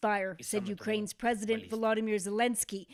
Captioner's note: speaking Alternate Language